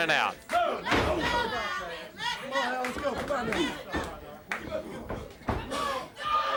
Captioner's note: blows thudding; footsteps plodding